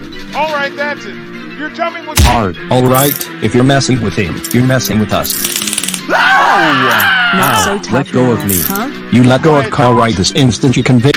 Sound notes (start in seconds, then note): 6.0 screaming